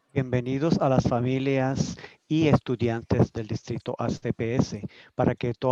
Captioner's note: speaking in foreign language